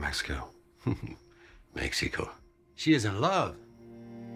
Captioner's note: chuckles